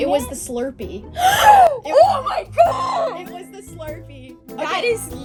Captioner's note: screams